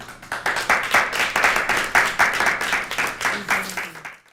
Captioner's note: applause